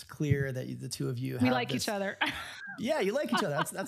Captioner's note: laughs